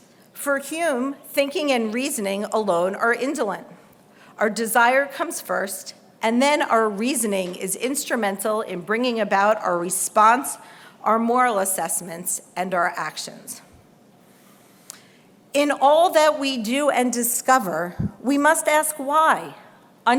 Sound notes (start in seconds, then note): none